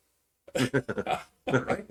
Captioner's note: laughing